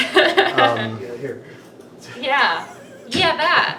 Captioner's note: laughs